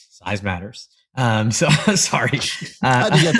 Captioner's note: laugh